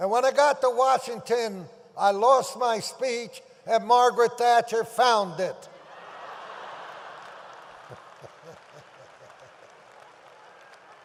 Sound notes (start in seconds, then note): 5.9 audience laughs; 7.9 Tommy laughs